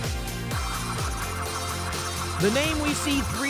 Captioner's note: spinning sounds